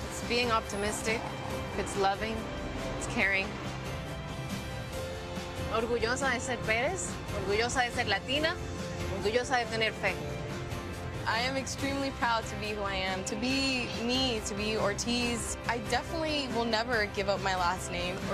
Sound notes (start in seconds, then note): 6.2 speaking in foreign language